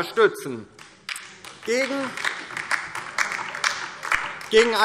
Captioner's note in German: Beifall DIE LINKE